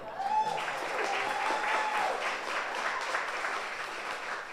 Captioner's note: audience applauds